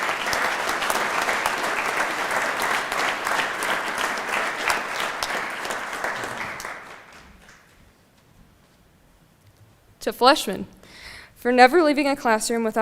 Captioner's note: applause